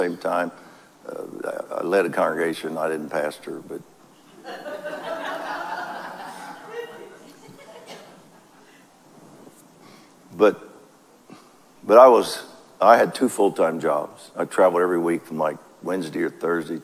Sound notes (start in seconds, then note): 8.2 audience laughs